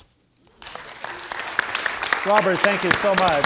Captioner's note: audience applauding